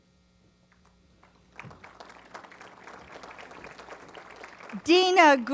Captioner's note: applause